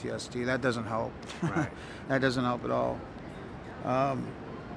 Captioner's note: chuckles